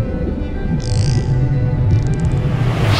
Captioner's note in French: Chant de dauphin